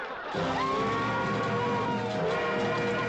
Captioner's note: indians yelling